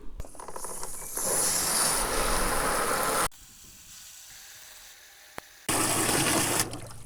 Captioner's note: water filling